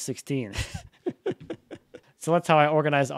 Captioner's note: laughing